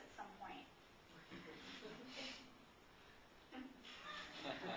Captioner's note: mild laughter